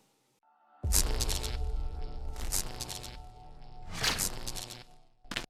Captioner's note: electricity buzzing